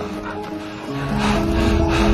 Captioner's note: panting